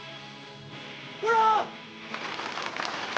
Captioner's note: applause